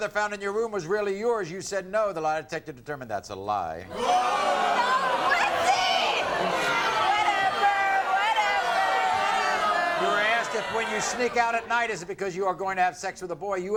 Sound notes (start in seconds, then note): 3.9 audience groans